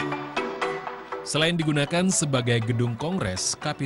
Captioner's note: non-english speech